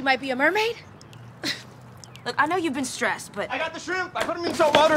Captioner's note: laughs